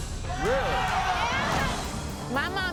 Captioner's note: audience gasps